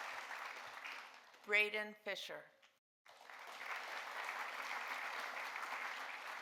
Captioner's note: audience applauding